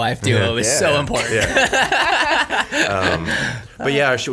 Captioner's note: everyone laughs